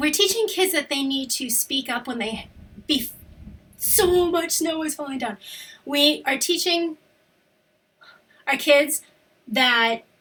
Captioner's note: rumbling sounds, looks outside